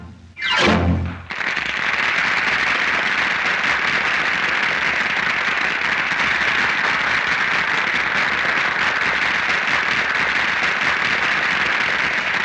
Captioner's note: applause